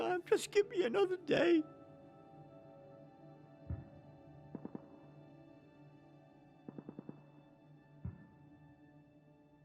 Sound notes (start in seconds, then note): 2.5 faint gunfire